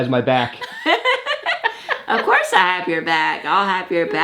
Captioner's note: laughs